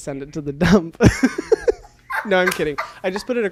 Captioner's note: both laugh